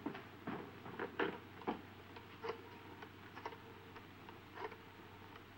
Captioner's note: door latching; telephone whirring